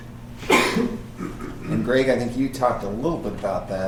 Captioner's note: coughing